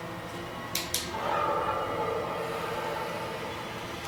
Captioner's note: button clicks